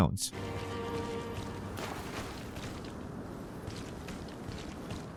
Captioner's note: footsteps rustling and splashing